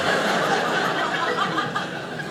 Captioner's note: audience laughing